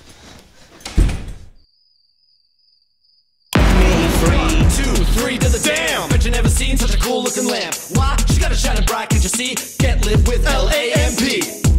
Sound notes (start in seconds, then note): 1.1 door slams shut; 1.6 crickets chirping